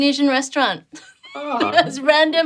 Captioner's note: both laughing